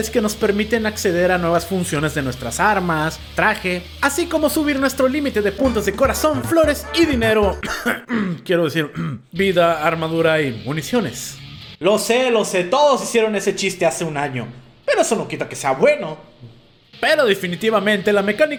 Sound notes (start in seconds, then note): 7.4 yes, cough